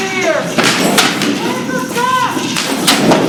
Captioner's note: thunder and clap